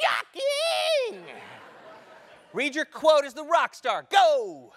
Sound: laugh

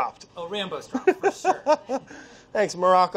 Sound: laughing

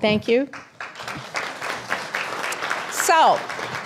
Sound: applause

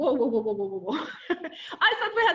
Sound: chuckles

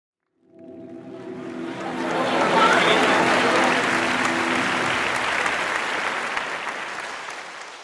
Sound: drone sound, musical chord; applause

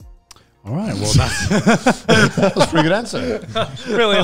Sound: laughing

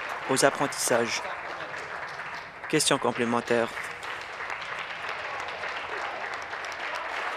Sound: applause

